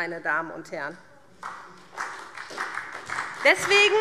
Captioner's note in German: Beifall SPD